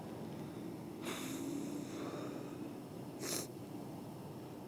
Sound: Stephen sighing

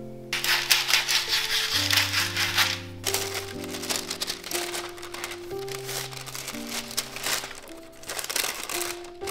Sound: parchment paper crinkles

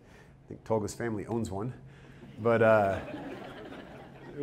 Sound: audience laughter

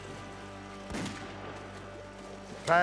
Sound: gunshotot

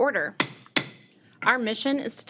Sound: gavel pounding

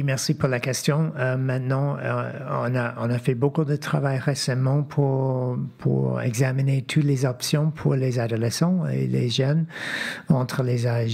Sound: speaking French

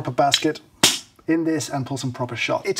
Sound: portafilter clicks

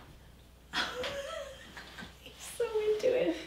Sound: laughs

